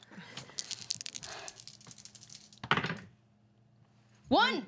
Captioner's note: dice rattle